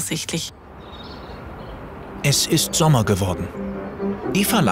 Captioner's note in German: Vogelgezwitscher